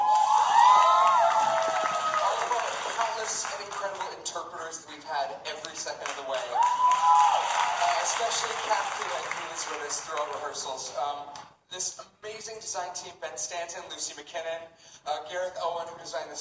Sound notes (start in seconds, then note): 0.0 cheering; 6.3 audience cheering